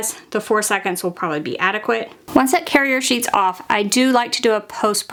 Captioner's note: none